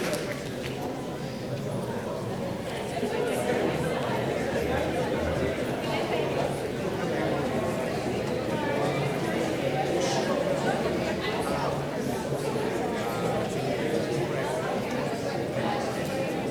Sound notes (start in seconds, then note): 1.2 people talking